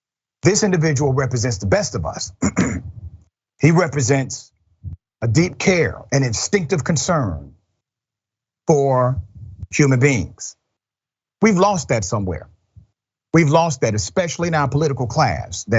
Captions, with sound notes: This individual represents the best of us. [COUGH] He represents a deep care and instinctive concern for human beings. We've lost that somewhere. We've lost that especially in our political class.